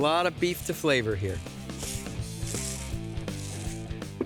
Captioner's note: sprinkling